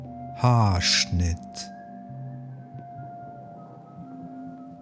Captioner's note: german